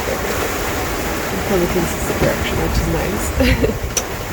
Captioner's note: laughs